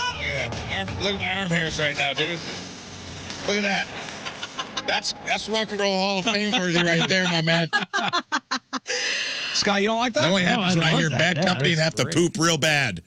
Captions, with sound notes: Oh, yeah. Look at my arm hairs right now, dude. Bad company Look at that. (Laughing) That's Rock and Roll Hall of Fame worthy right there, my man. (Laughing) Scott, you don't like that? That only happens when I hear, "Bad company and have to poop real bad."